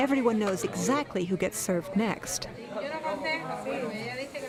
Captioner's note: speaking spanish